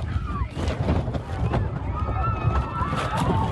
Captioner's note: screaming